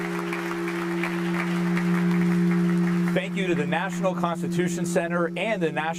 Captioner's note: applause